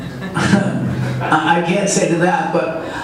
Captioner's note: audience laughs